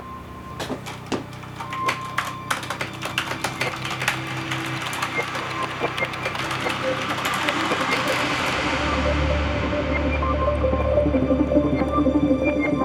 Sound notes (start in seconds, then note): 0.5 keyboard clacking; 9.5 pensive music plays